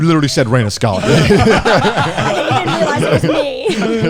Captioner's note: all laughing